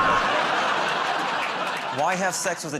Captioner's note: buzzer buzzes